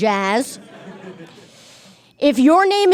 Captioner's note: audience chuckles